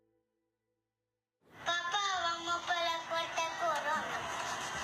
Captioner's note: boy speaking Spanish